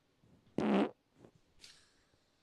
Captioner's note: fart sound